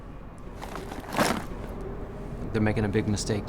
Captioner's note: papers thudding